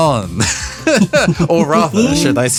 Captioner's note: laugh